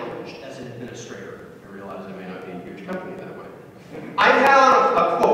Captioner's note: chuckles